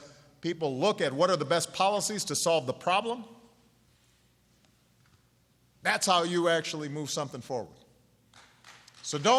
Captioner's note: applause